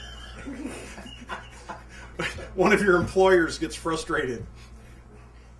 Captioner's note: laughter